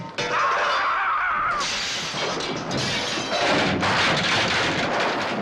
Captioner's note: Irwin screaming and crashes follow